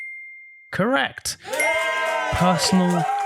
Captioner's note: audience cheering